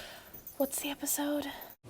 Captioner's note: secret whisper to producer